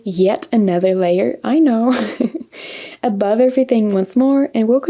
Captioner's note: laughs